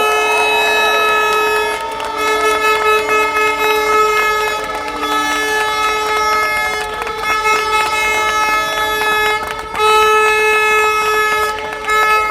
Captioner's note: applause